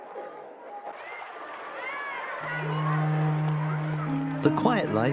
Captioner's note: children chattering; water splashing